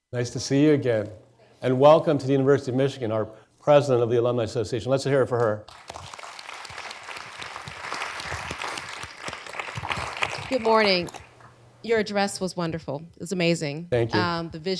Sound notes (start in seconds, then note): 5.6 audience clapping